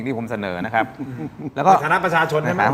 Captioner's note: laughs